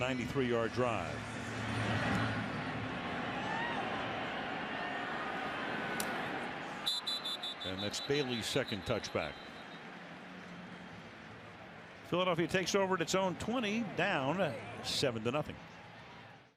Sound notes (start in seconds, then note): 6.8 whistle